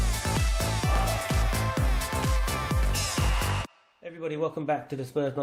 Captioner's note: 환호성